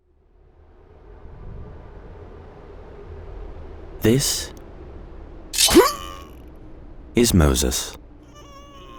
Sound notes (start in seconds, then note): 5.5 blade stabbing; 5.6 man gasping